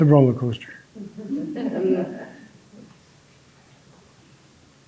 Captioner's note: audience laughing